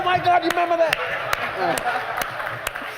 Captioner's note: laughter; applause